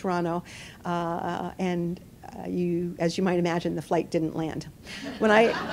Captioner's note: laughter